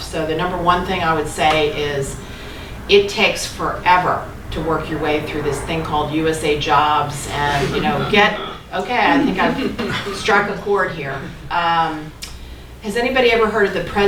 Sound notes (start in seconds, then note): 8.7 laughing